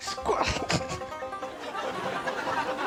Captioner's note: laughs